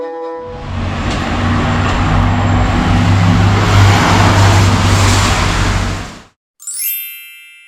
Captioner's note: street noise; whoosh sound